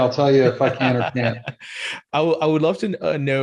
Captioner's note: laughs